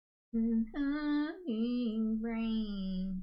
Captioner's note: humming